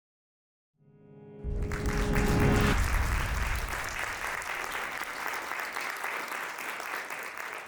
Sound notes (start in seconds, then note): 1.5 audience applauding